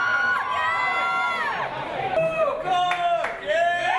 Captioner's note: people Cheering